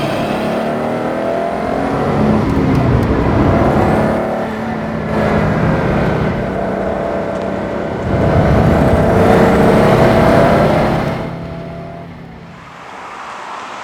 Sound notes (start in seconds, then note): 0.0 rumble sound; 4.6 turbo flutter; 8.6 intake and turbo sound; 11.3 HIGH engine rpm